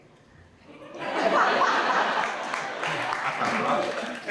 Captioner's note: audience laughs; Vanessa and Jim laugh